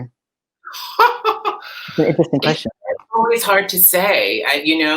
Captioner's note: laughs